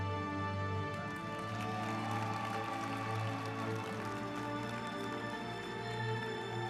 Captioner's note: uplifting music; group applauding